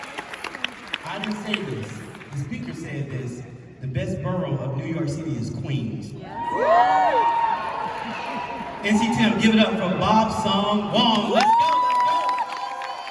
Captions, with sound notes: I didn't say this. The speaker said this. The best borough of New York City is Queens. [cheers and applause] NCTM, give it up for Bobson Wong! Let's go, let's go!